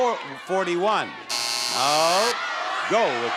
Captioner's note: buzzer sounds